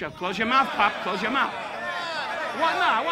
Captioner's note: audience protesting